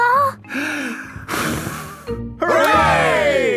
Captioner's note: breathes deeply, blows